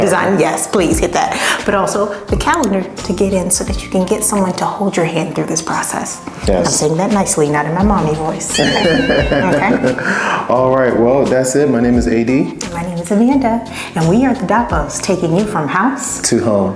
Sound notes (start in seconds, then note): 8.4 laughing